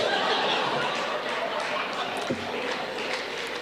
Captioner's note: audience laughing